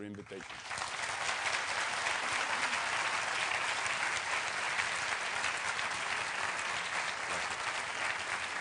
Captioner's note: applause